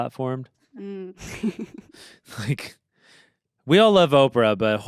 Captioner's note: laughs